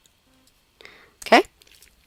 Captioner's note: pause